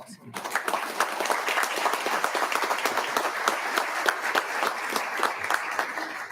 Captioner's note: audience applauding